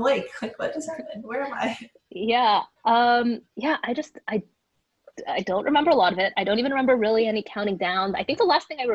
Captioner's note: laughs